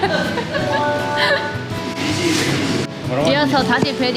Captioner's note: laugh as she understand